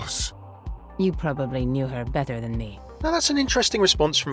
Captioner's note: voiceover